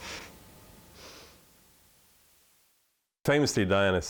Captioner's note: chuckles